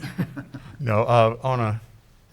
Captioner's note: chuckles